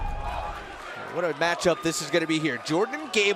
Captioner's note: fans chanting